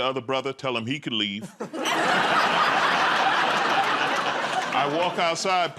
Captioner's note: laughter